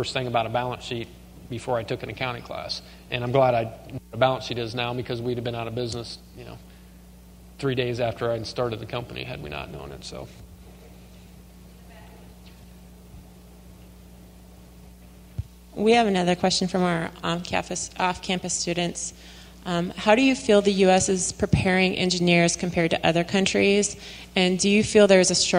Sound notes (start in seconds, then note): 11.8 silence